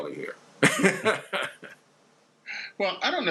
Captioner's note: laughs